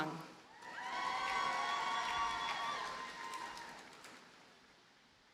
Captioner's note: audience cheers and applauds